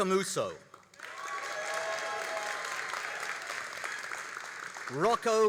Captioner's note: all applauding and cheering